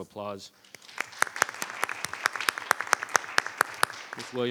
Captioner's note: members applauding